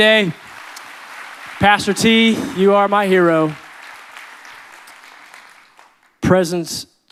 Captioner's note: audience clapping